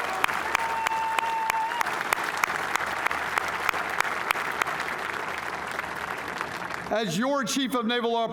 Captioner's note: applause